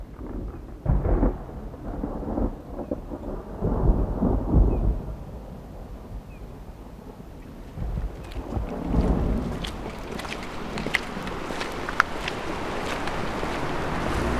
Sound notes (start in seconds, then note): 7.7 lightning sound; 10.4 footstep sound